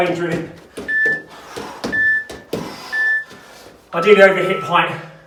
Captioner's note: beeping